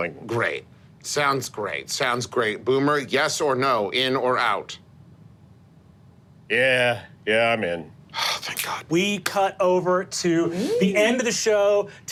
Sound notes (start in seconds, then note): 8.1 sighs